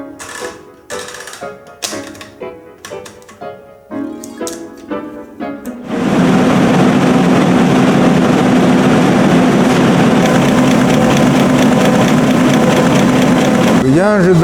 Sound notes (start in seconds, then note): 2.0 typewriting; 5.9 printing